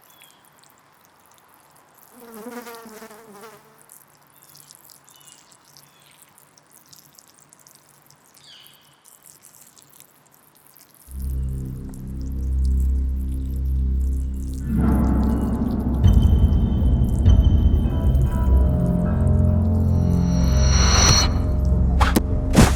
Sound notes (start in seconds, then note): 2.2 flies buzzing; 6.8 pee splashing; 11.6 ominous music; 19.7 ominous music continues